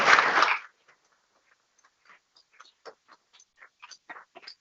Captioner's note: people clapping